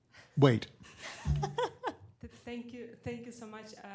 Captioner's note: laughter